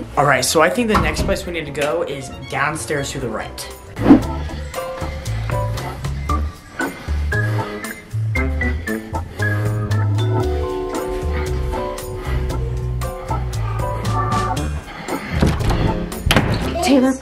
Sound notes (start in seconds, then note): 4.6 heavy breathing; 14.1 whispering; 15.2 door bangs